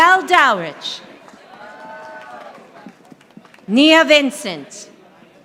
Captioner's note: audience applauding